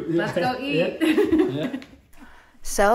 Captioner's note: laughing